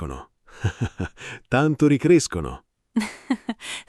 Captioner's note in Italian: Haha; Haha